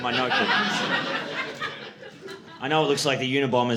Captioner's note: audience laughing